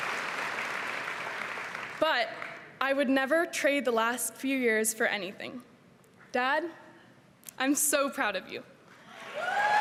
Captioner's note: cheering and applause